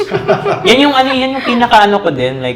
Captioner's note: laughs